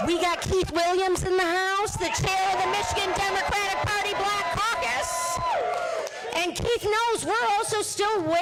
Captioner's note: cheers and applause